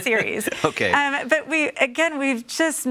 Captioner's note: chuckles